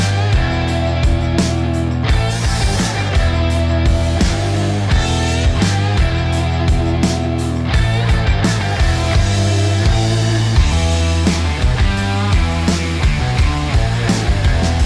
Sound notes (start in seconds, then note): 2.2 air Pump Whooshing; 8.5 air Pump Whooshing; 10.7 hard Rock Music Continues